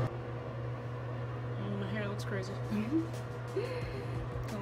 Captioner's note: snickers